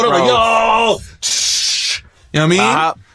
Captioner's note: spraying sounds